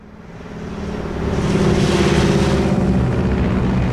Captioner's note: airplane propellers whirring